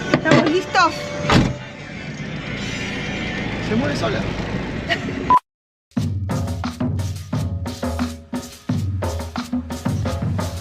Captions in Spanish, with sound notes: ¿Estamos listos? ¡Se mueve sola! [risas]